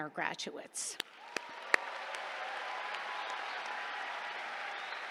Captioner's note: applause